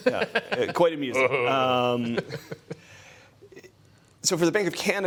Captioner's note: laughter